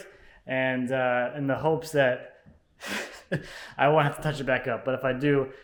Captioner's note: laughs